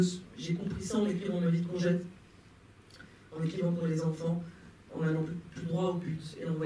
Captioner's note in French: none